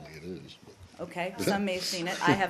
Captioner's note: laughter